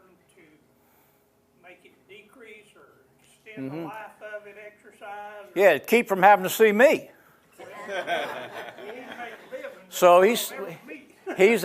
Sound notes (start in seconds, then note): 7.6 laughing